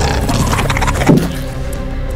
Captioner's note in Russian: звук удара о стекло